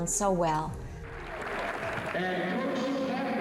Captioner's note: applause